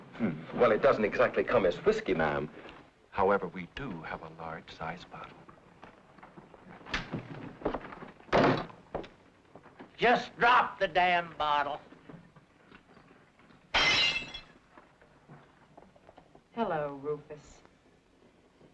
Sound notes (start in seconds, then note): 13.7 bottle crashes